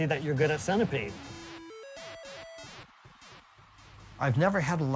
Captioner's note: video game beeping